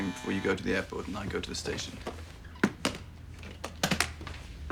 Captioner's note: doorbell ringing